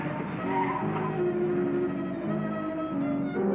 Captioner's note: tires squealing